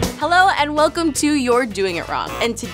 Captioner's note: buzzer